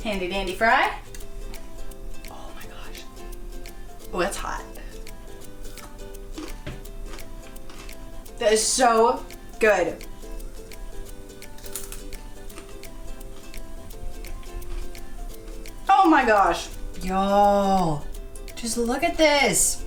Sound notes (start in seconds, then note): 5.2 bright pop music; 5.7 fry crunching; 11.4 fry crunching